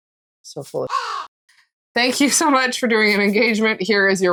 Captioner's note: caw